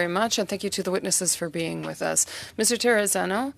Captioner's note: speaking French